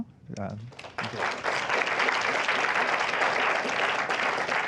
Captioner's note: applause